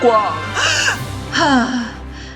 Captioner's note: sigh